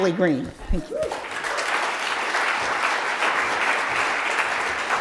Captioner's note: audience clapping